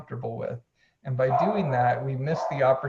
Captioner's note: dog barking